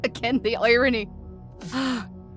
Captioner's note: sighs